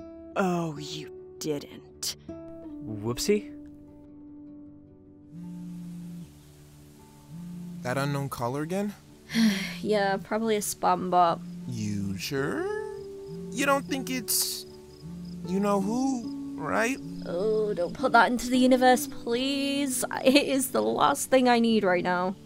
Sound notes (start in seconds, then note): 5.2 phone vibrating; 9.3 sighs